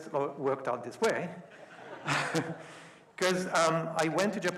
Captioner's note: audience laughing